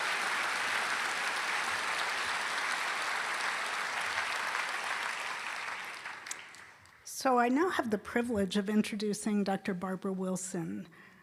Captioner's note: applause